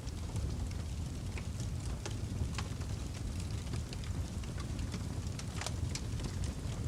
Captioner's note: ambient Camfire Crackling